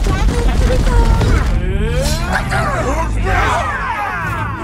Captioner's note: robots roaring and shouting